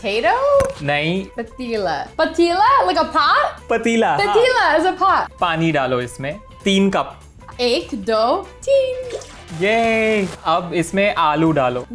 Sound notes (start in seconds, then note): 0.7 speaking in Hindi; 3.7 speaking in Hindi